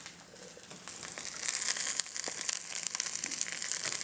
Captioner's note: sizzling